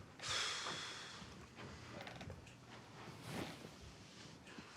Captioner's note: Abe exhales sharply